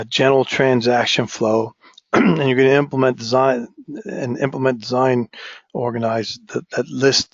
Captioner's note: cough